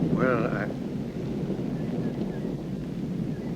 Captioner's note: thunder rumbling